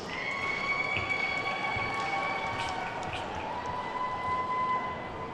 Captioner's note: attendees whooping and clapping